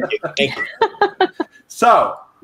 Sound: laughing

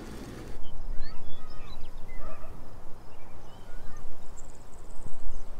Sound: birds chirping & kids playing

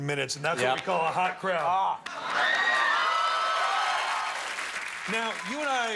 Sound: cheers and applause

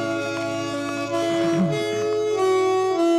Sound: clears throat

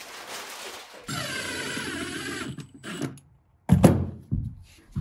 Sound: drill whirring

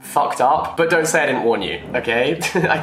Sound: chuckles

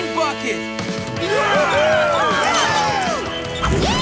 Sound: cheering

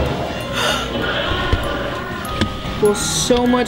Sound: gasping

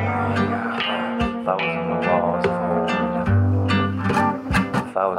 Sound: ring out

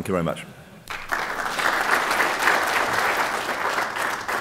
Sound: applause

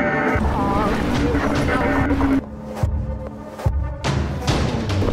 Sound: creepy intense music; distorted voice; creepy intense music

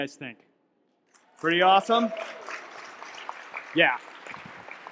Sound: audience clapping

